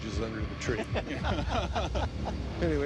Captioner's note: laughter